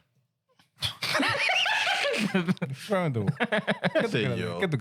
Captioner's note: laughing